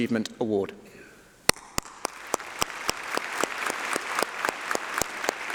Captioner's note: applause